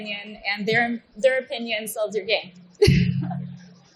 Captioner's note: laughs